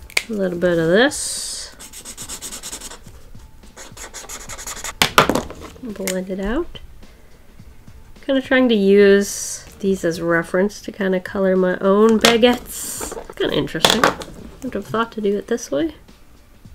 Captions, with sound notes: A little bit of this. [Marker sounds] Blend it out Kind of trying to use these as reference to kind of color my own baguettes. That's kinda interesting. Wouldn't have thought to do it this way.